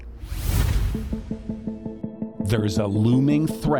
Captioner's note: swooshing